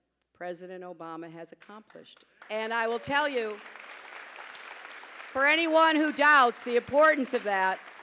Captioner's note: pause, applause